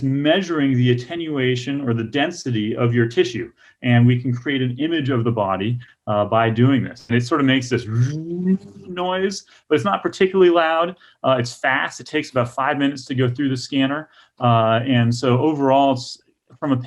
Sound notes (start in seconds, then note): 7.8 makes humming noise